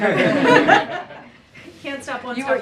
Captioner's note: laughter